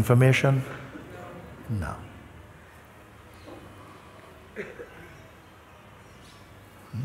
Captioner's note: voices in audience